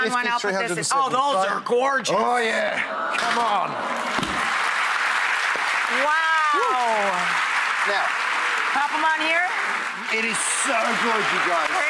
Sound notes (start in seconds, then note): 4.2 cheers and claps